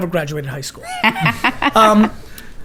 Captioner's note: laughs